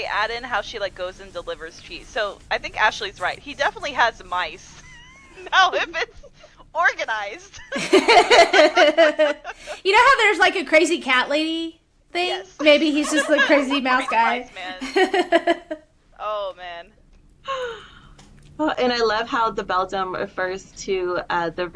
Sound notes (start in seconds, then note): 7.5 laughter